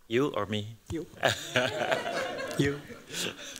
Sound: laughter

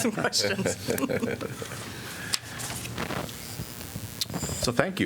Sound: laughter

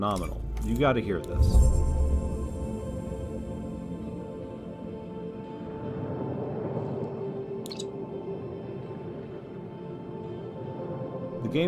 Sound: game audio

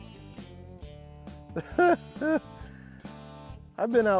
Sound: laughs

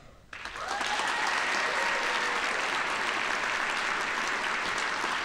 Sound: audience applauding

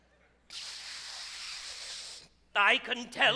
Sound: laughing; inhales deeply

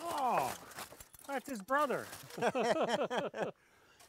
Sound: chuckling

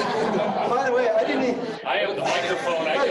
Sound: laughing

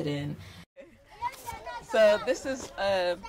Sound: kids talking

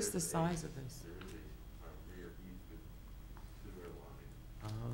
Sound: faintly speaking

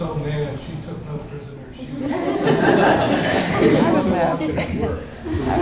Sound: laughter

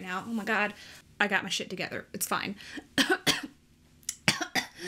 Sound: coughs

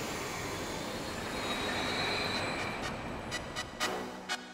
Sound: saw screeching; upbeat music

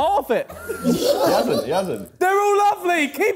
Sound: laughing

